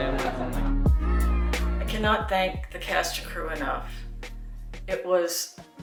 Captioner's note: cast and crew laughs; June Inuzuka voice over